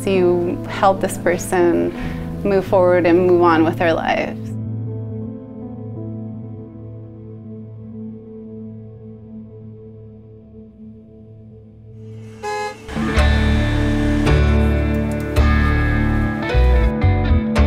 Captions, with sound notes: You helped this person move forward and move on with their life. (horn honking) (upbeat music)